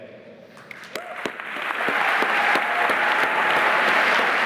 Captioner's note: applause